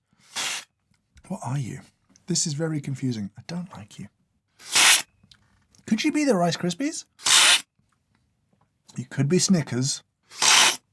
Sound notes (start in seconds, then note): 0.3 slurp; 4.6 slurp; 7.2 slurp; 10.3 slurp